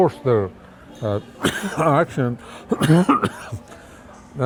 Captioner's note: coughs